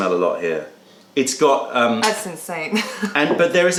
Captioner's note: laughter